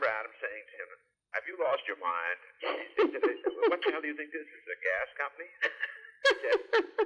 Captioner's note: laughter